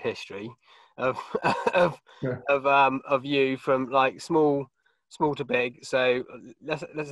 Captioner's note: coughs